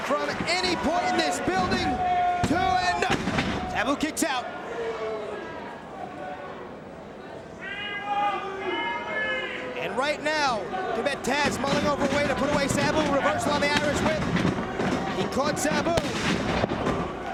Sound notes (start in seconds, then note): 4.8 spectators cheering